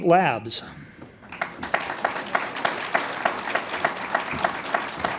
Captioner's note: audience applauds